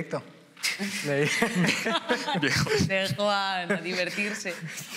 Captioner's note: laughter